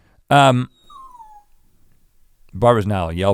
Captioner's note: dog whining